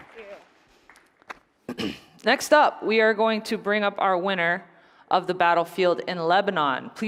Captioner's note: applause